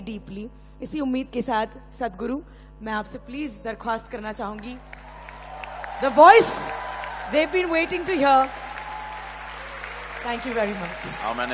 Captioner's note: applause